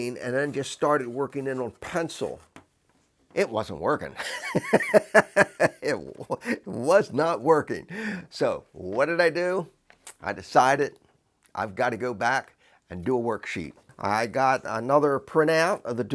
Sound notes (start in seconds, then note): 4.2 laugher